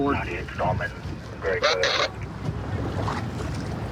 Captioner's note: radio communication